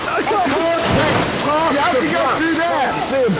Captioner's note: panicked shouting continues